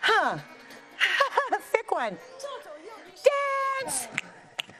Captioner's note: soft music; laughs